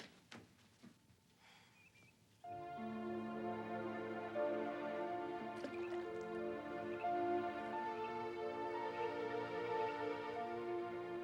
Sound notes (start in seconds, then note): 2.4 somber music; 5.6 rock plops; 7.6 frogs croaking